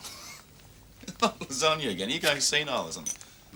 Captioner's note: laughs